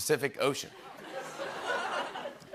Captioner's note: laughter